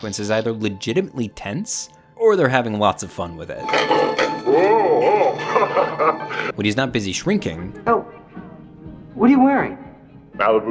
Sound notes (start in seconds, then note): 3.6 laughing